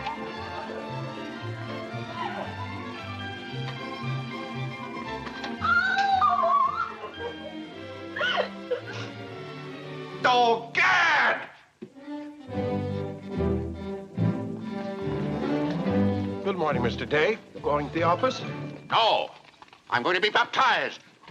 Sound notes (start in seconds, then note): 0.2 Mary crying; 5.6 Mary crying